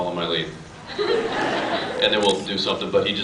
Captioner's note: laughs